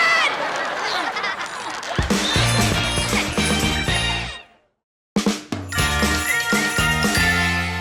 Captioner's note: audience laughter